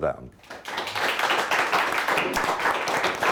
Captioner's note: clapping